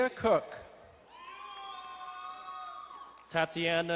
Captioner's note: crowd cheering and applauding